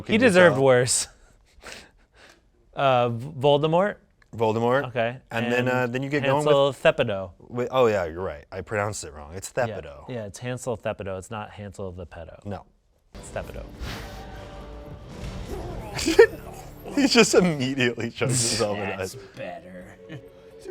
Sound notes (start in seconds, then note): 13.2 suspenseful music; 15.6 chokes; 15.8 laughs